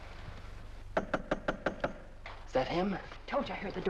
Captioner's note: knock at door